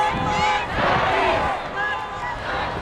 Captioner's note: crowd; car horns blaring